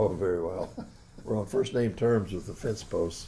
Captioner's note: laughs